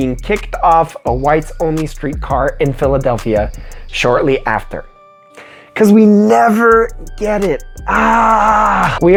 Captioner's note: scream